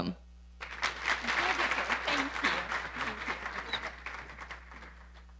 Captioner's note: audience applauding